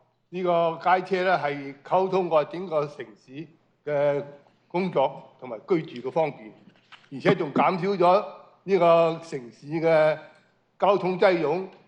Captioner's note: foreign language